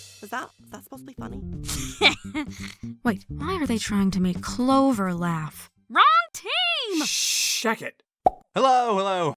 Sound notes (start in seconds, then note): 0.0 ba dum tss; 1.6 snickers